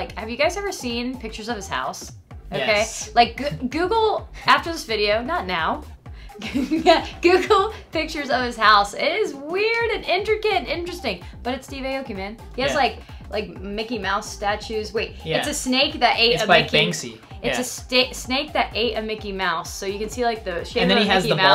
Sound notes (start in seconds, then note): 6.4 laughs